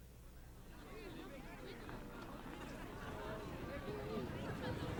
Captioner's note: crowd chattering